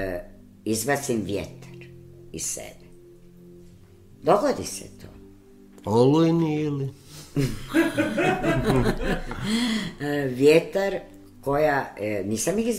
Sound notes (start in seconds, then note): 7.3 laughter